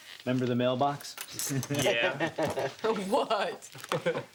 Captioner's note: guys laugh